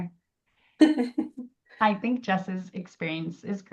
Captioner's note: laughs